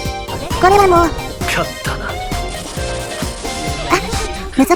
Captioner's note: confident